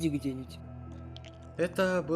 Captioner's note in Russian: ом-ном-ном